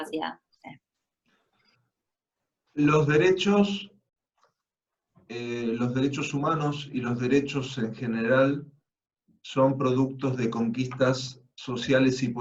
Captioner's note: Spanish